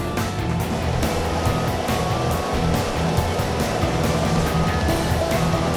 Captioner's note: machine whirring